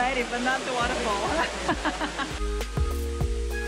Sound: laughs

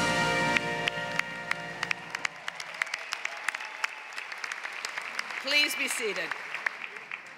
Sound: applause

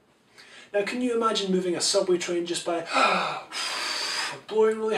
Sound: inhale; blowing

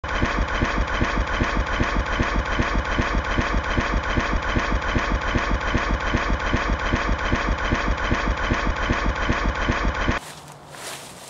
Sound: tractor sounds; footsteps

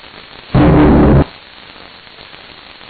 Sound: heavy distorted noise

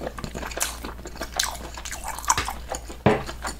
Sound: slurping

